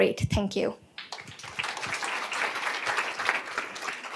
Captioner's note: applause